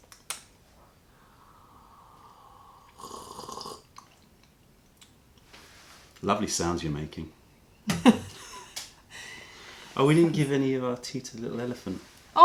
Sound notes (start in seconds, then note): 3.3 sips tea; 7.9 laughter